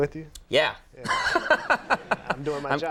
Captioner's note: laughs